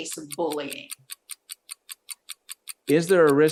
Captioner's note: timer continues ticking